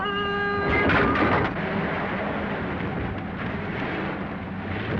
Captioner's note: engine rumbling